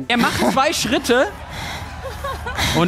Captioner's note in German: Lachen